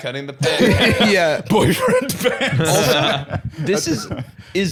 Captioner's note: laughing